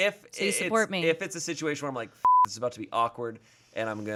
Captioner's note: beep